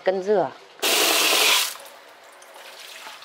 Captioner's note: water sounds